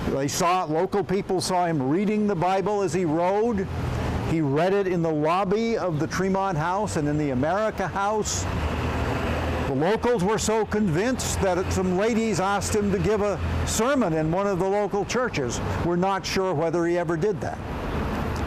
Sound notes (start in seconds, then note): none